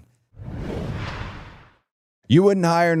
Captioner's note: rushing sound plays